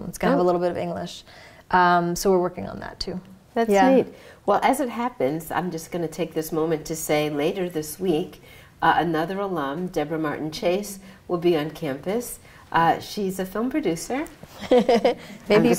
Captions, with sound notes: It's going to have a little bit of English. So we're working on that, too. That's neat. Well, as it happens, I'm just going to take this moment to say later this week, another alum, Debra Martin Chase, will be on campus. She's a film producer. [LAUGHS] I'm just gonna say.